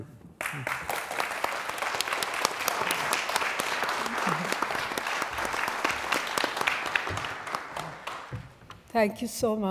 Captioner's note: applause